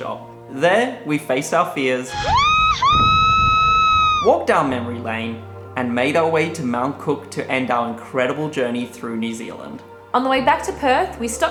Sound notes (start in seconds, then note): 2.0 screaming